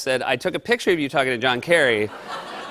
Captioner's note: laughter